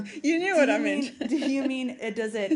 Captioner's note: laughter